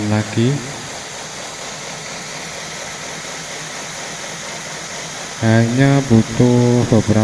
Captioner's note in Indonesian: suara mesin